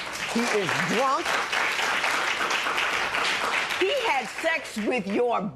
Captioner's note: applause